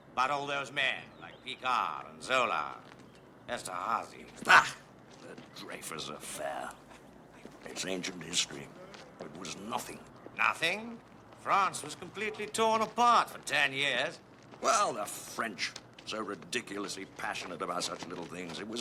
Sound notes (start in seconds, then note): 4.8 scoffs